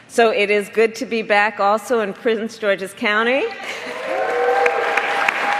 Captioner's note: applause